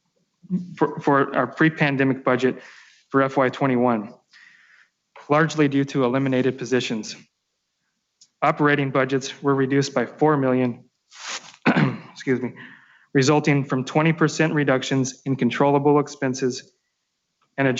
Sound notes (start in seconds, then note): 11.6 clears throat